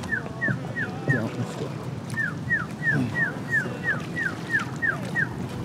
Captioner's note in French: sifflement